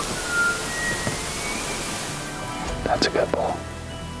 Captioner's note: elk bugling